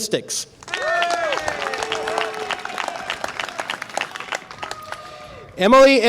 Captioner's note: audience applause and cheer